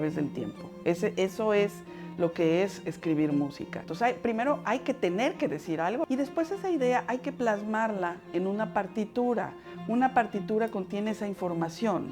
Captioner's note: speaking Spanish